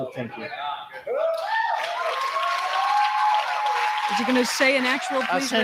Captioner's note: cheering